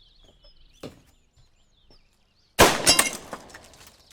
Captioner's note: gunshot